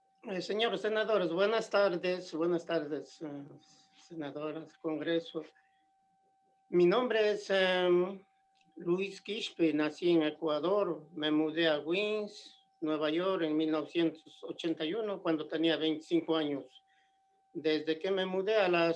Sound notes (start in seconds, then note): 7.1 speaking spanish